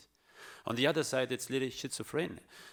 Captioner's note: speaks in foreign language